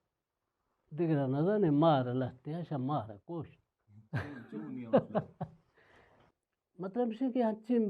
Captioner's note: chuckles